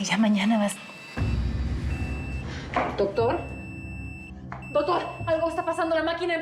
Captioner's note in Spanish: bip acelerado del monitor